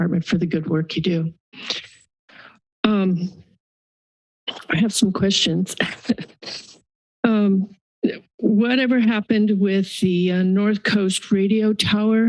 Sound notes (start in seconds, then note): 1.7 pause; 3.8 pause; 5.8 chuckles